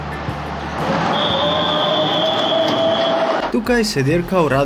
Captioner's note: whistle